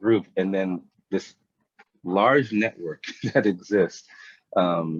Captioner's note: chuckles